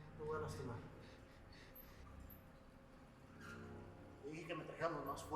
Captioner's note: man speaking foreign language